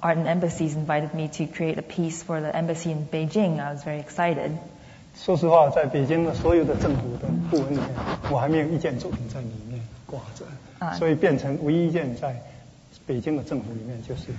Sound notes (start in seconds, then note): 9.8 speaking Mandarin